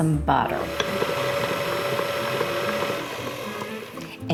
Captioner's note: mixer buzzing